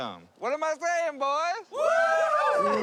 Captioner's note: cheering; booing